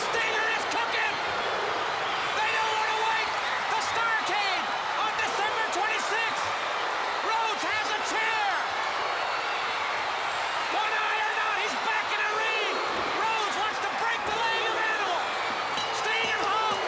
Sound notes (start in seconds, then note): 1.8 crowd cheering; 10.1 crowd cheering; 15.7 bell ringing